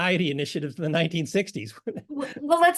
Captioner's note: laugh